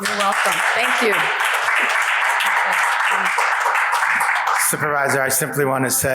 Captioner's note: audience applauds